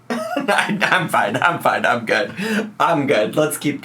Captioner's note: laughs